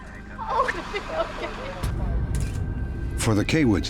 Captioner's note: sobbing